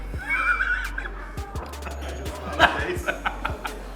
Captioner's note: intense blazing; laughing